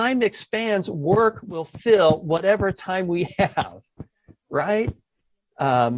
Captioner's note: laughs